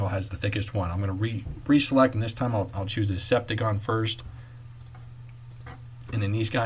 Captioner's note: clicking